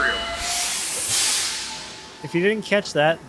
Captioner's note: machinery hissing